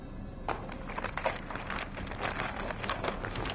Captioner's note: rocks clatter